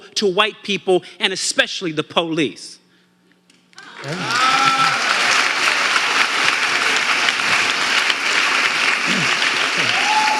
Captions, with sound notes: to white people, and especially the police? (audience applauding and cheering)